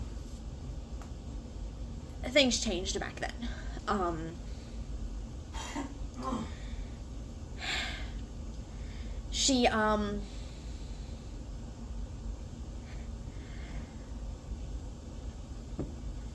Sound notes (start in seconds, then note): 8.9 sigh